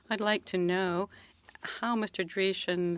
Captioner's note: speaking French